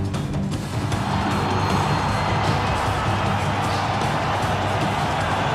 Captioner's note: crowd cheering raucously